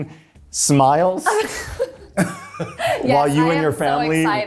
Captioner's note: laughing